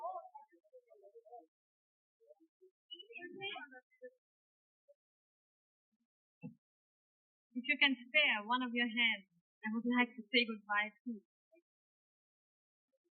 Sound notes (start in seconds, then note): none